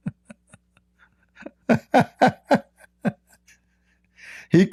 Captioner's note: Ketawa